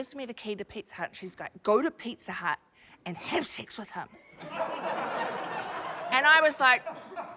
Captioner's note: laughter